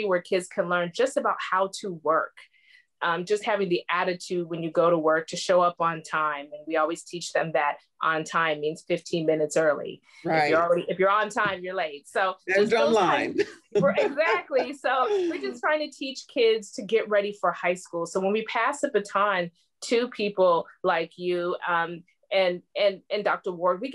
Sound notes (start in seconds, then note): 13.2 laughter